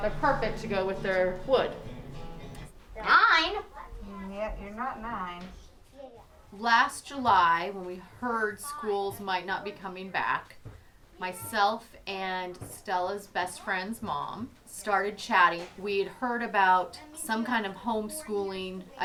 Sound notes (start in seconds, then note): 2.9 kids talking